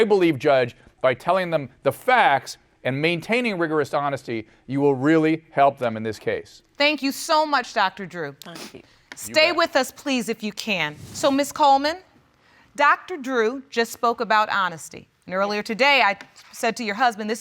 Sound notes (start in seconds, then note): none